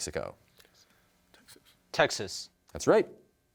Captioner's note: whispers